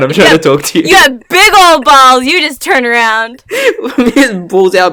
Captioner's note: laughs